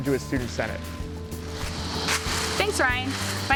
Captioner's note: pompom crunches